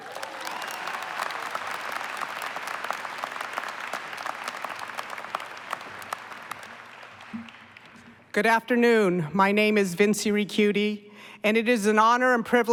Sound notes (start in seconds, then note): 0.0 applause